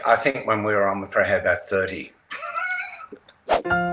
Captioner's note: chuckles; bright upbeat music